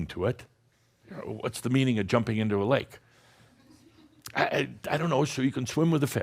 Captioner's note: a few chuckles